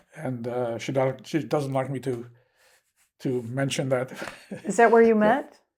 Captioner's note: laughing